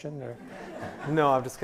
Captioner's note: laughs